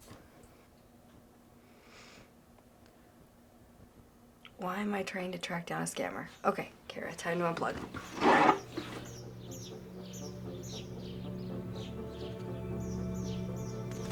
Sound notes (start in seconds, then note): 7.6 birds chirping; 11.5 pensive music plays